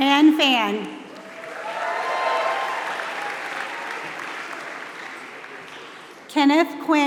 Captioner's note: applause